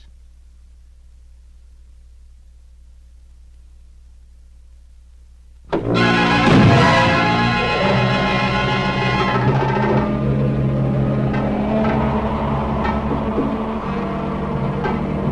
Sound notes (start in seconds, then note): 5.4 suspenseful music; 6.8 doors banging; 6.8 suspenseful music; 9.4 dramatic music; 9.4 wind blowing eerily